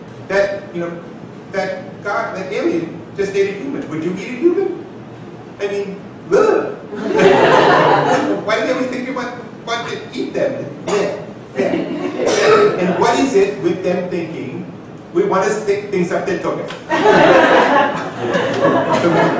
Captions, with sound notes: that, you know, that alien just ate a human. Would you eat a human? And then (repulsed sounds). Why do they always think that we want to eat them? (repulsed sounds) (laughing) And what is it with them thinking we want to stick things up their tuchus. (laughing)